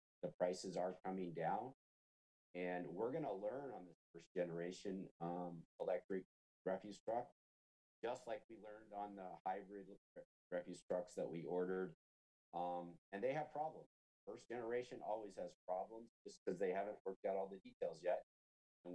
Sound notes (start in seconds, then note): none